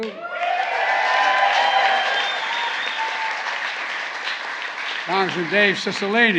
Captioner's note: applause